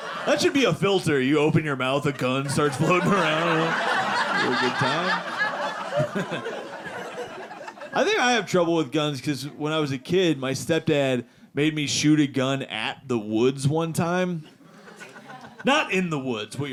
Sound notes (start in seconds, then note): 3.8 audience laughing; 5.8 laughing